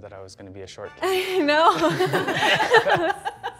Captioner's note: laughter